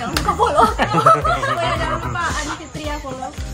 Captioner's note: laughing